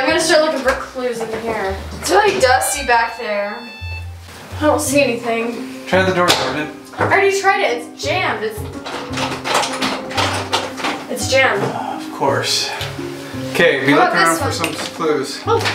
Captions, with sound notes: - Okay, I'm gonna start looking for clues in here. It's really dusty back here. (machine beeps) I don't see anything. - Try the door, Jordan. - I already tried it, it's jammed! (door lock clunks) It's jammed. - Of course. Okay, be looking around for some clues.